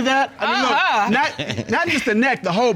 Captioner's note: chuckles